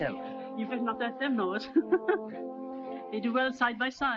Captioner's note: laughs